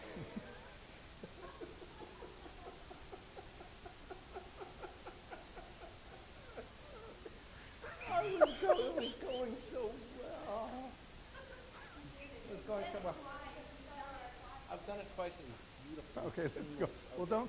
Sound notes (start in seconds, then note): 0.1 laughing; 12.0 voiceover